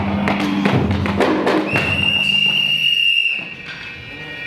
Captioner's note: Master Jones' whistle blows